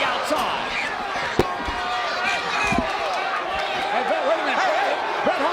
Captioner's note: applause